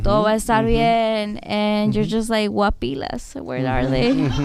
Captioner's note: speaking spanish